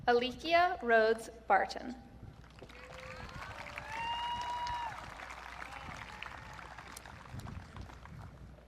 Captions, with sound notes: Alicia Rhodes Barton. (audience cheering)